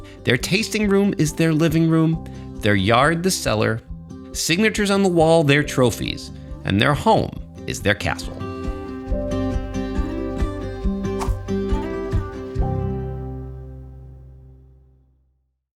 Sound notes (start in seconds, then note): 8.6 bright orchestral music; 11.1 whoosh